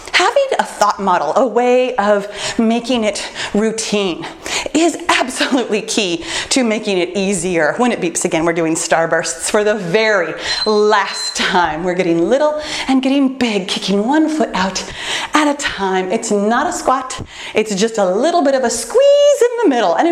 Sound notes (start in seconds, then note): 10.3 timer beeps